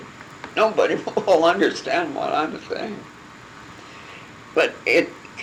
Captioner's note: laughing